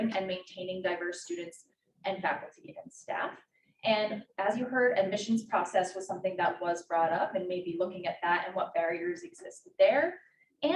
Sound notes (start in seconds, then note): none